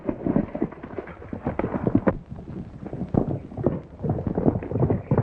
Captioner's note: horses galloping